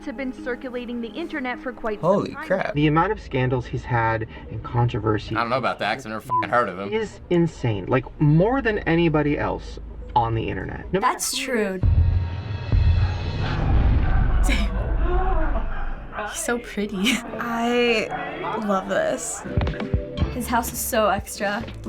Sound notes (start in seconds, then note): 11.7 dramatic music; 15.1 Jeffree gasps